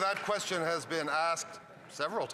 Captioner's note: some Applause